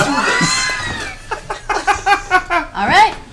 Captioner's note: all laugh